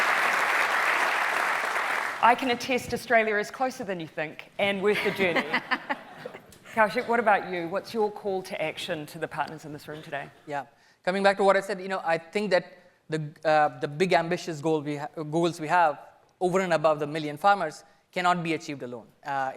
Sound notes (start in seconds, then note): 4.9 laughing